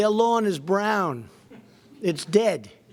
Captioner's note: laughter